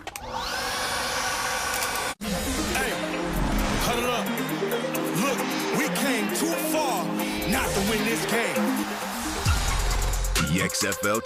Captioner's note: leaf blower whirring